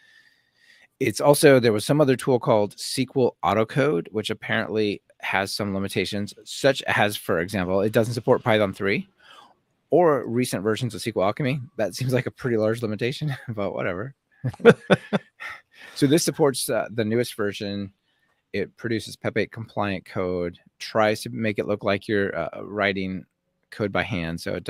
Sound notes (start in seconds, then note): 14.4 laughing